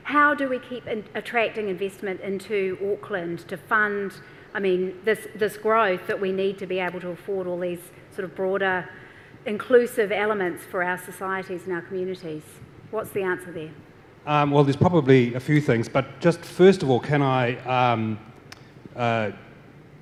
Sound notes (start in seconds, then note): none